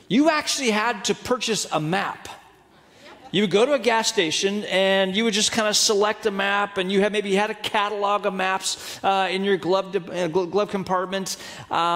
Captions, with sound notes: you actually had to purchase a map. (audience laughing) You would go to a gas station and you would just kinda select a map. You had maybe had a catalog of maps in your glove compartments.